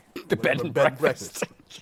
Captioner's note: laughing